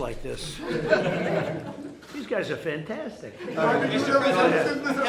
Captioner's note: laughter